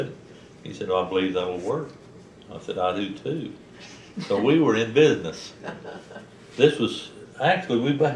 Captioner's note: laughter